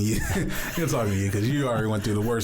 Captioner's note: both chuckle